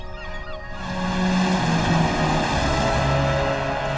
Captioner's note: waves crashing